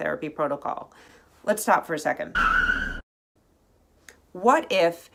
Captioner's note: brakes squealing